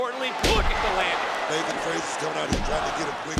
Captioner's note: crowd cheers